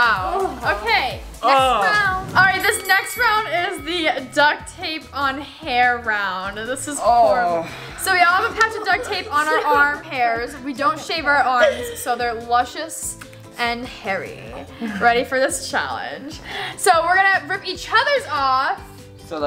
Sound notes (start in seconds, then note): 2.3 fight bell